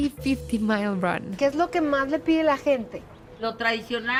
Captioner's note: speaking Spanish